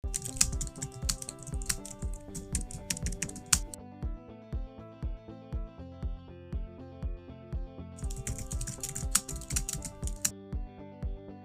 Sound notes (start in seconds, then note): 0.0 keyboard typing; 4.2 warm music; 8.0 keyboard typing; 11.2 warm music